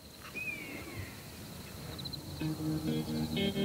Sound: bird cry

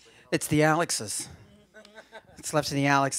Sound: laughter

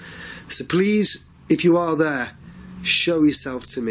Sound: none

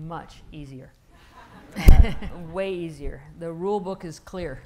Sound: laughing

